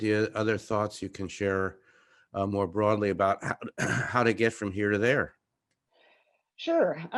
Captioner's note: cough